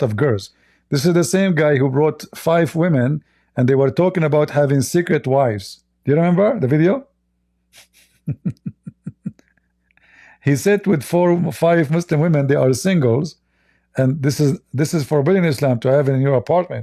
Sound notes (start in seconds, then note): 7.7 Ketawa